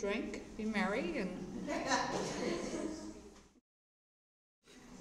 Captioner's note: laughter